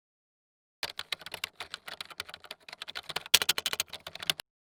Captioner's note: typing sound